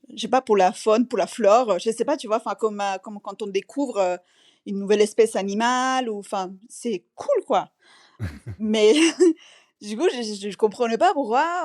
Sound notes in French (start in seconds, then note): 8.2 rires